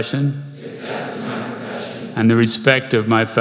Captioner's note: crowd